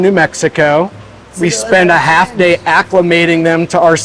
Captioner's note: voice drowns